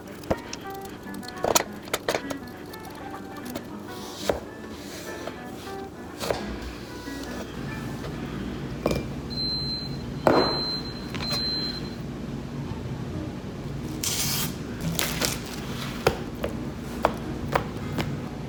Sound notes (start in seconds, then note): 9.0 rice Cooker Beeping